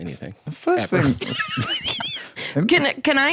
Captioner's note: laughs